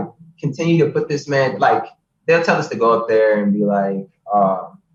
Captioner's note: laughs